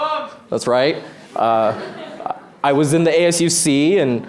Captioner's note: laughter